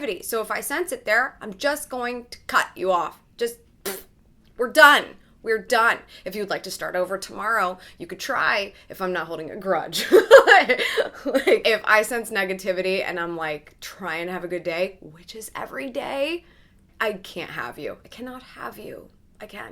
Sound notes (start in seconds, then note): 3.8 blows; 10.1 laughs